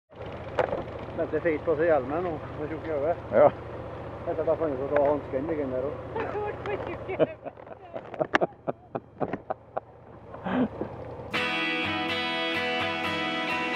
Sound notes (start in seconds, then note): 7.1 brotherly laugh